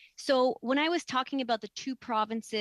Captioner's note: speaking French